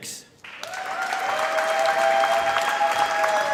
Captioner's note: applause